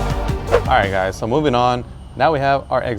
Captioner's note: whoosh